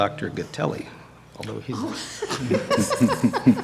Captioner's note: laughter